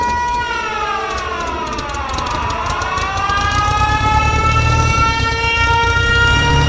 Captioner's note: air raid sirens wailing